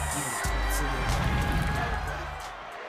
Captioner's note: crowd cheering; crowd chatter